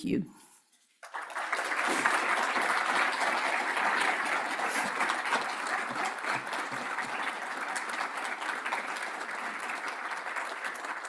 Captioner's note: audience applauds